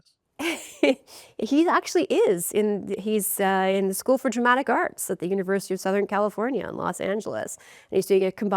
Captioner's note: laughs